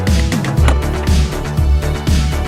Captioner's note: click!